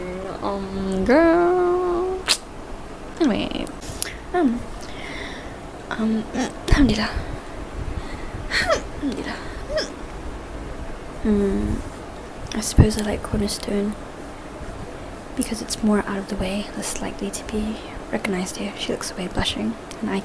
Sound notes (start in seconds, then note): 5.0 burps; 7.2 burp 2x; 9.6 burps